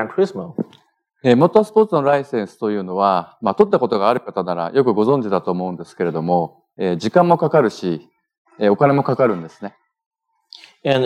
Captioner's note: speaking japanese